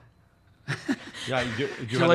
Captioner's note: laughs